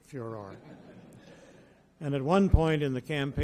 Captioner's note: audience laughs